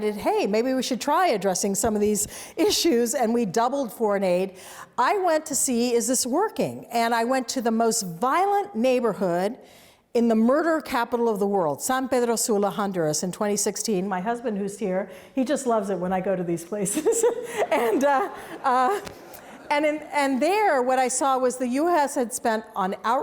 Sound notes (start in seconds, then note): 16.9 laughs; 18.6 audience laughs